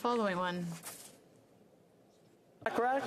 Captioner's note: speaking French